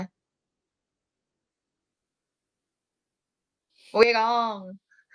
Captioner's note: pause